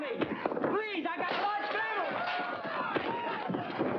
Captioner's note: smash